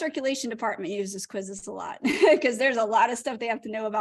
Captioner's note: laughter